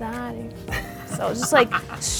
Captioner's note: laughing